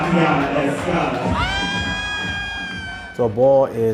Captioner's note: crowd applauding and cheering